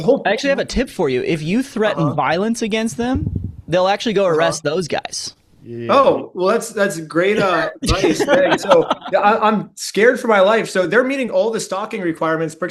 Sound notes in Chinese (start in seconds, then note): 7.3 笑声